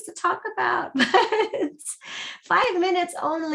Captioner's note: laughs